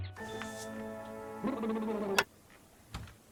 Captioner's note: lips chattering; TV clicks; wood creaking